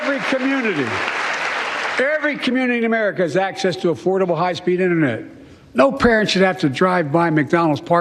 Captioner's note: cheers and applause